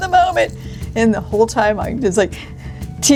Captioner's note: shivering